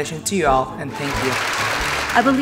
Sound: audience loudly claps

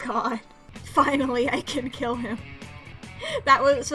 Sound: through laughter

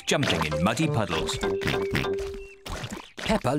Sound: oinks

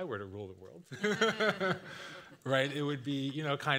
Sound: everyone laughing

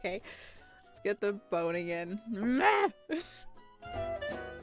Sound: goblin noises

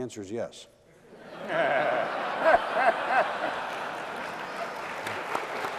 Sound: laughter

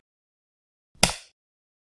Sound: light switch

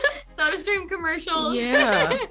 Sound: laughing

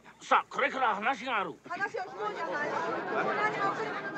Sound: speaking Japanese

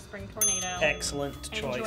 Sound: bell dings

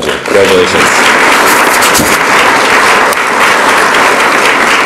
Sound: audience applauds

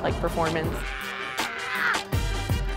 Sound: shouting

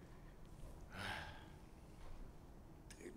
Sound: deep sigh

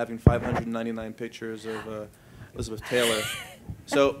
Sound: laughs

